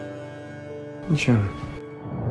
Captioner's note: voiceover